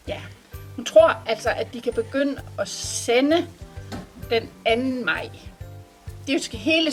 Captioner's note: in Danish